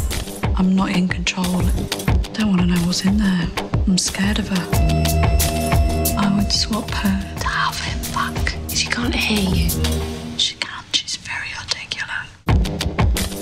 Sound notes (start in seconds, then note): 6.7 she whispers